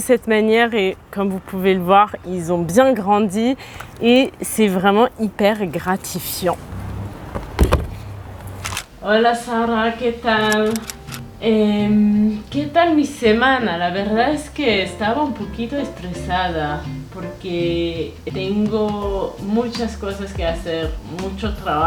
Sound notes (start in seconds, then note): 9.2 in Spanish